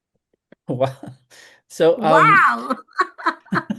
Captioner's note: laughs